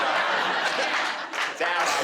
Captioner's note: crowd laughing